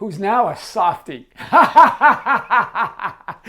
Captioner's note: laughs